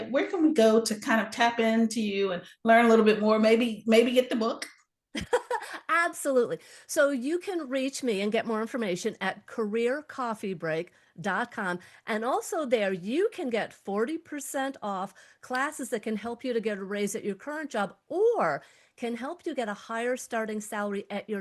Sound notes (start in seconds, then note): 5.1 laughs